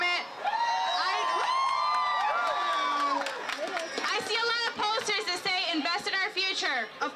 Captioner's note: cheering